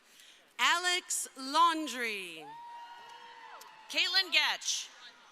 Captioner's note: crowd cheering